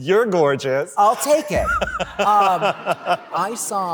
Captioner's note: laughter